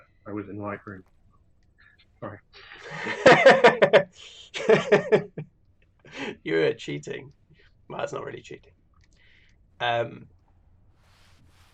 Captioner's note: laughter